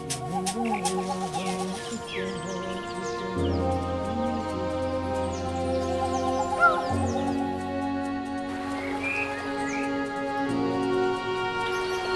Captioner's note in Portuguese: sons de pássaros e trilha de transição